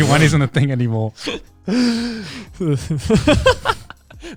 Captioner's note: laughing